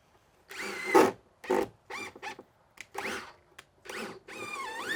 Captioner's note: drill whirring